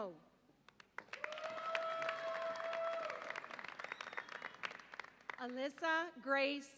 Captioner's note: audience applauds and cheers